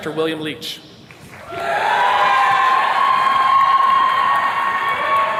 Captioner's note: attendees cheers and claps